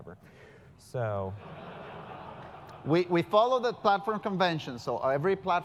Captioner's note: laugh